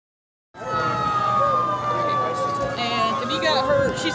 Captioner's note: sirens